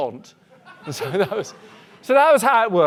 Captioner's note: audience laughing